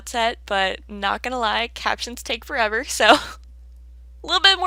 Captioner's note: laughs